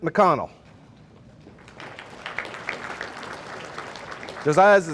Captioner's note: audience applauding